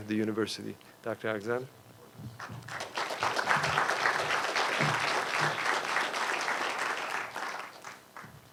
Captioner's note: applause